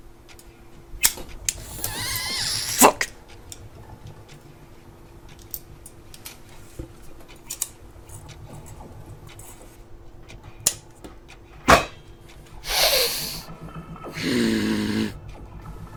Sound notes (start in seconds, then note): 11.7 bang; 14.0 frustrated Breathing